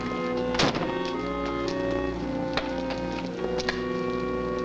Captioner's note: car door slams